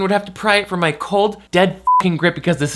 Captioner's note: beep